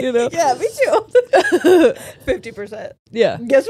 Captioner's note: all laughing